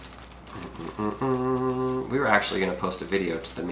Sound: humming

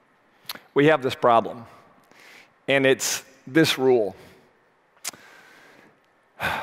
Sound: sighs

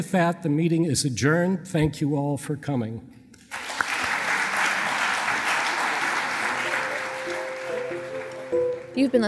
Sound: applause

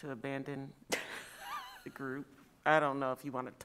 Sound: laughs

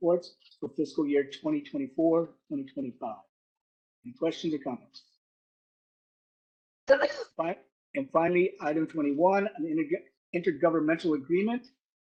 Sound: caugh

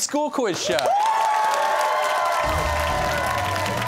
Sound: cheers and applause

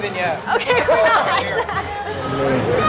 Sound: laughs

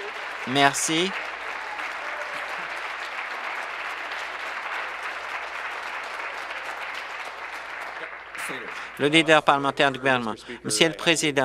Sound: applause

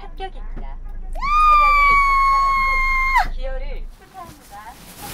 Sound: shouting in joy

